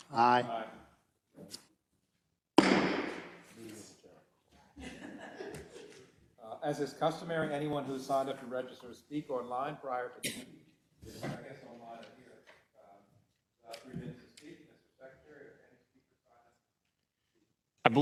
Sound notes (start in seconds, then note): 4.7 laugh; 10.2 cough